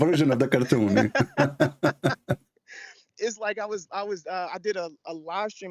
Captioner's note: Ketawa